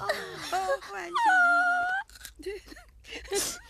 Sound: sobbing

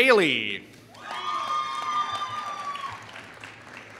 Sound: applause

